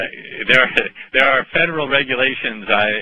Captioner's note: chuckle